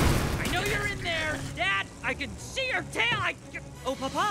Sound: grumbles; sweetly

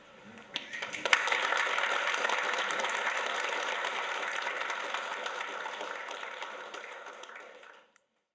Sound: clapping

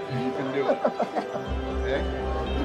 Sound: laughing

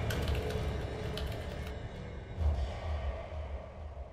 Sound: loud typing

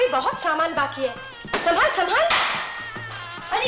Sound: frame thuds

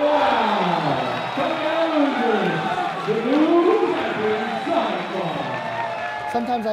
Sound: cheering

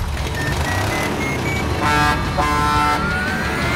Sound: truck horn honking

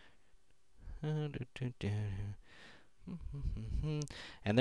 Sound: humming

